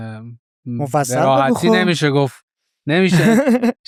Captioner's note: laughs